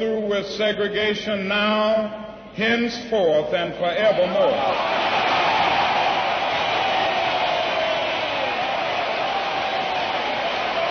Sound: sustained applause

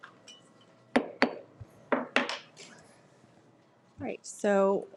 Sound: gavel pounds

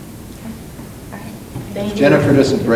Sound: murmuring

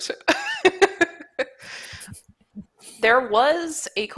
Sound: laughs

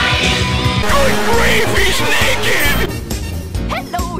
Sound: distortion

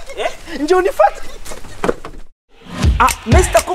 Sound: chuckles

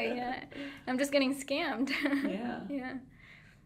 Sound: laughing

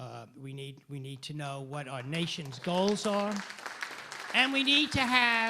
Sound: applause

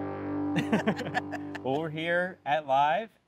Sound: laughing

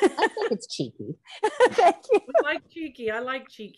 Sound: laughing

